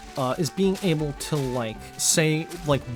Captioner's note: none